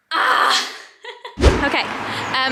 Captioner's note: video swooshing